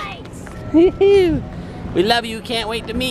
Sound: laughing

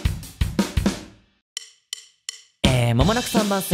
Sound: natural voice

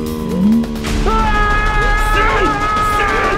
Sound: screaming

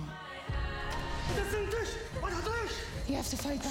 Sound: yelling in foreign language

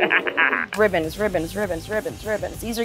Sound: laughing

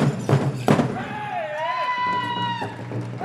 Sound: drum beating intensely; dancer chanting shouts; drum rolling

